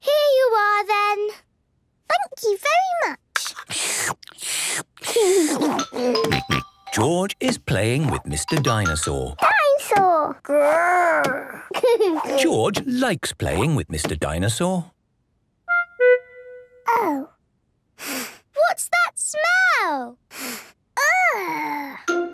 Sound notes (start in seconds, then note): 3.4 slurping; 5.3 giggles; 11.5 giggles; 18.0 sniffs; 20.3 sniffs